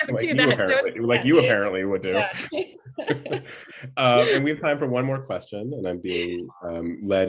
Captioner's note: laughter